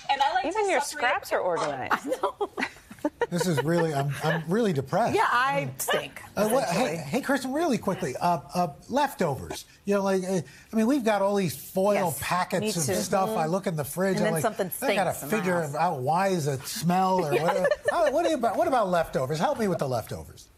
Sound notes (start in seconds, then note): 1.6 laughing